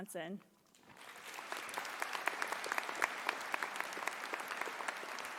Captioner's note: audience applauding